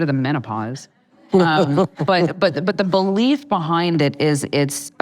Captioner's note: laughing